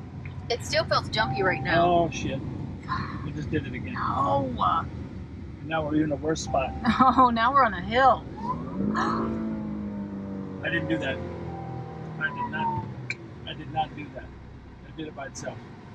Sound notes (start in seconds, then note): 9.3 engine revving